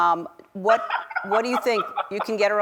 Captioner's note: laughs